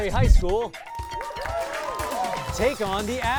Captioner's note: cheering